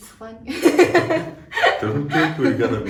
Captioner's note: laughing